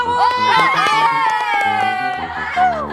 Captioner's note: trying to wrap up with an applause